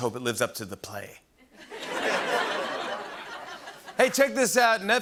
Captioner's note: laughter